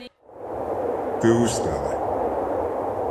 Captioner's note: speaking french